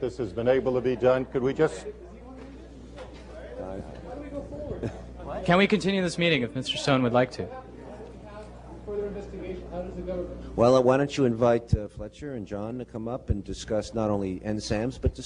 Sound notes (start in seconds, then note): 2.1 chatter